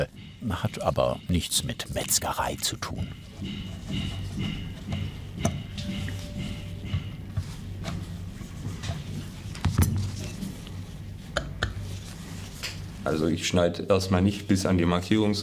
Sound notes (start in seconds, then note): 3.3 distant hitting metal; 11.0 quiet clattering